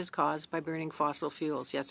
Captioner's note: speaking in French